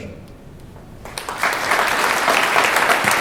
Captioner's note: applause